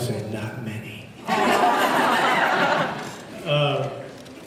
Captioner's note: laughs